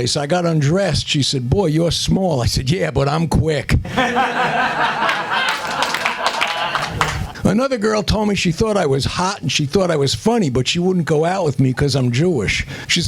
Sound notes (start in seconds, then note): 3.8 laughter